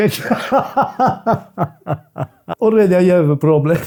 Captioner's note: laughs